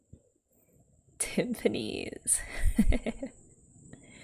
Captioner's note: laughs